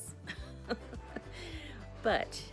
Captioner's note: laughs